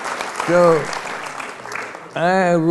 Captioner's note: applause